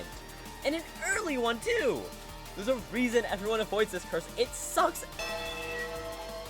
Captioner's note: bellring